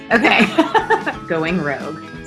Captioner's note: laughs